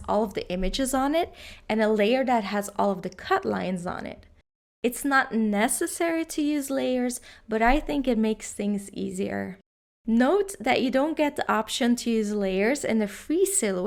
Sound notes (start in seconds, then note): none